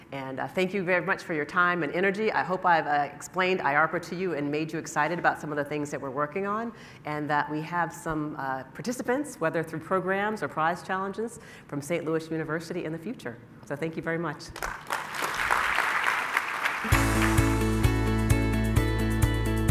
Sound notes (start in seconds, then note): 14.5 clapping; 16.8 light music